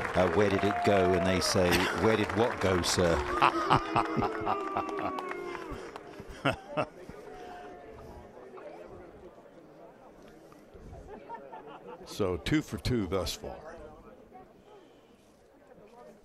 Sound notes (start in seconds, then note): 2.5 cheers and applause